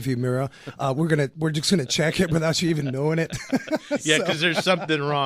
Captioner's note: both laugh